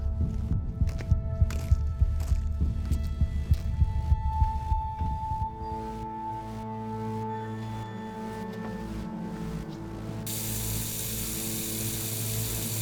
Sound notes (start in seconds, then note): 5.6 the music grows in intensity; 10.2 running water